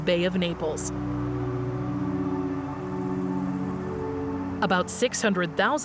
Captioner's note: gentle music continues; wind whooshing